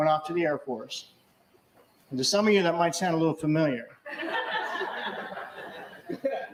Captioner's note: laughter